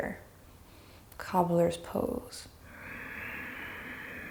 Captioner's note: breathes deeply